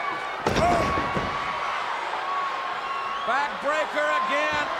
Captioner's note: bodies thudding